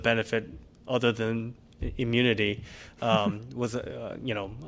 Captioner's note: laughter